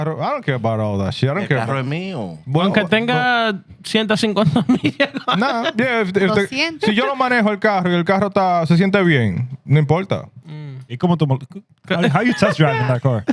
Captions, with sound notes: (Speaking Spanish) (Laughter) (Speaking Spanish) How you test driving that car?